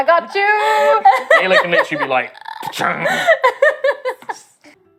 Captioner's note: metal clanging sound